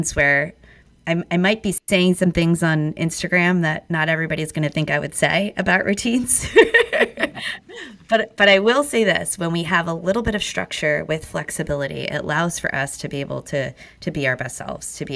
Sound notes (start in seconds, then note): 6.3 laughing